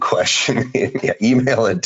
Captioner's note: laughing